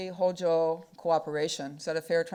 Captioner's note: speaking foreign language